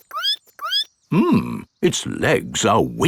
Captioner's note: squeaks